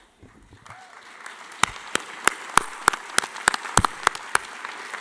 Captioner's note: audience applauding